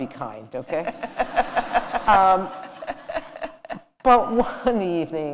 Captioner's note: laughter